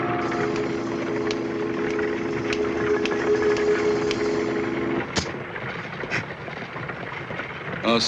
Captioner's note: تصفيق